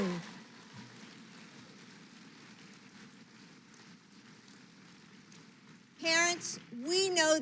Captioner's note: applause